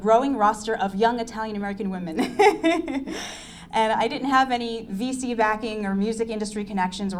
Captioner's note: laughs